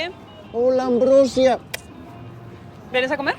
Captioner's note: kissing